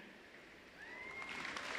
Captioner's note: applause